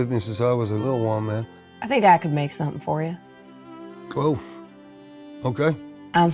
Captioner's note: none